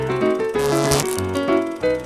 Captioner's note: intermittent electric buzzing